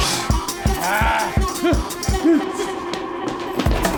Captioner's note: grunts